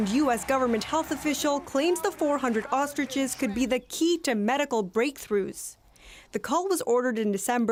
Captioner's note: cheering and applause